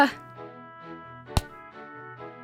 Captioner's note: thud sound